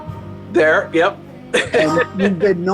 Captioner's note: chuckling